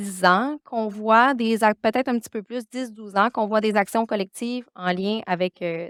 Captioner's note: continues speaking French